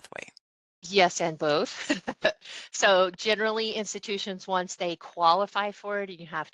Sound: laugh

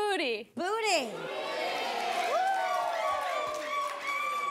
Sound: audience cheers

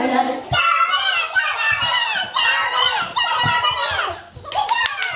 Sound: screaming excitedly

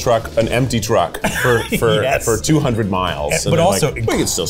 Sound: laughs

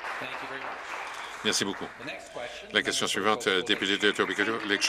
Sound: some Applause

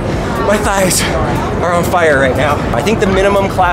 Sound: breathing heavily

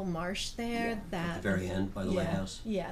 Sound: voiceover

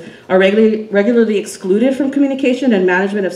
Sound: none

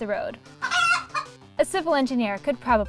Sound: chicken clucking

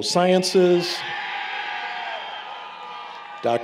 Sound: applause, Cheering

